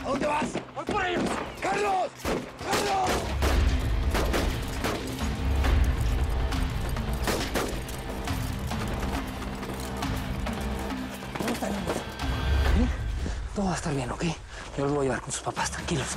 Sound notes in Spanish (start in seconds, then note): 4.4 Disparos